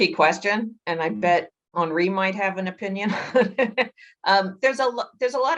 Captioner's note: laughs